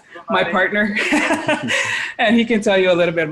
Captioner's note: laughing